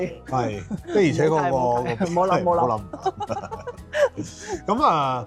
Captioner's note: haha